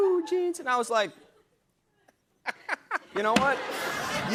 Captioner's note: laughter